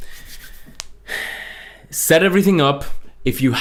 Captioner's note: sighs